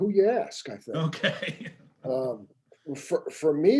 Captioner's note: laughing